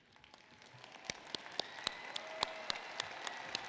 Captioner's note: applause